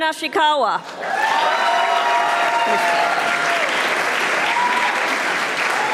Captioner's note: audience applauding